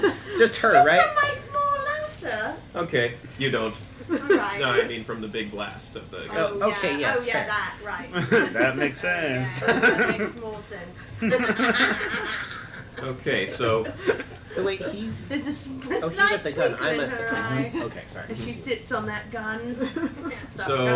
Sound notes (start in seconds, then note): 11.1 laughter